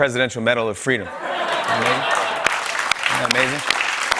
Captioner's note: laughter and applause